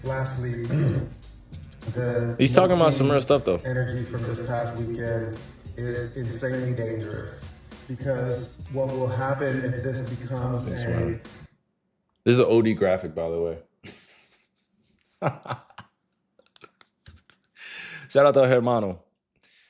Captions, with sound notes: Lastly, the energy from this past weekend is insanely dangerous because what will happen if this becomes a thing. This is an OD graphic, by the way. (Laughing) (Laughing) Shout out to Hermano.